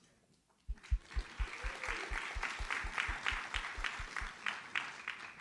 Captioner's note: audience applauds